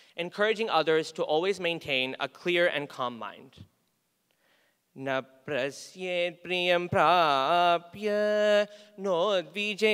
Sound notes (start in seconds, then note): 5.0 chanting